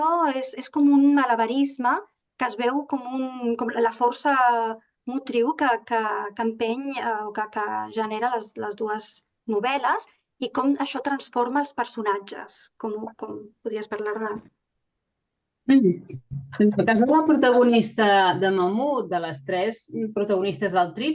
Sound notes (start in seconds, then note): 7.2 continues speaking in Catalan; 16.6 speaking in Catalan